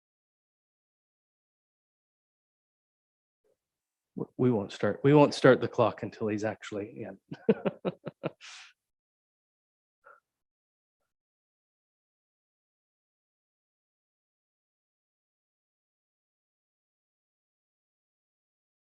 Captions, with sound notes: We won't start the clock until he is actually in. (laughs)